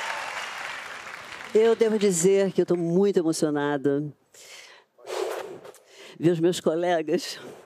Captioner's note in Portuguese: aplausos